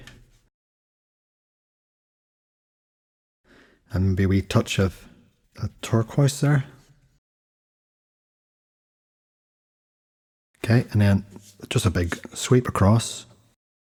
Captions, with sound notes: [Silence] And a wee touch of a turquoise there. [Silence] Okay, and then just a big sweep across.